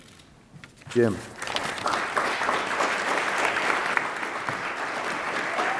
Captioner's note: attendees applaud